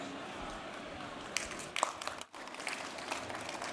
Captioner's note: applause